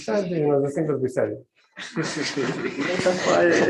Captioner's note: laughter